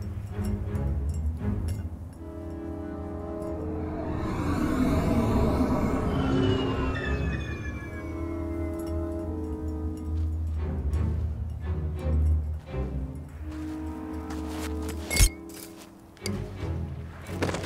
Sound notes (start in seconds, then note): 0.2 bottle rattles; 6.3 speeder engine whirrs; 15.3 bottle clangs